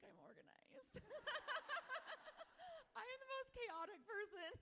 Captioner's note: everyone laughing